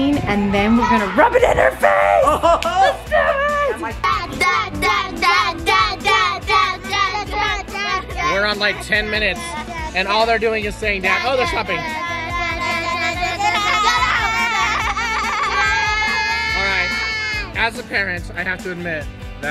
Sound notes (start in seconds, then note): 1.3 laughing; 4.4 girls chanting; 11.1 girls chanting